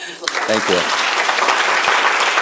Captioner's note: applause